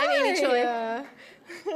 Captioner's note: chuckles